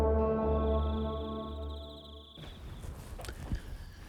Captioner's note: frog croaks